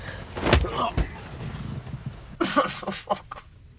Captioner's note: Robert grunting; Robert whimpering